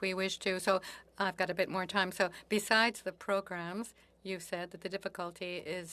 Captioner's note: speaking French